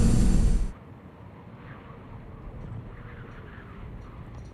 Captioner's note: wind blowing